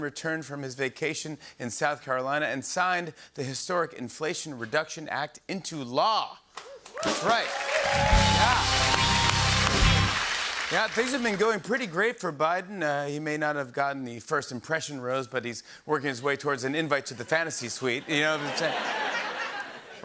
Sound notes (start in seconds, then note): 8.6 cheers and applause; 18.0 laughter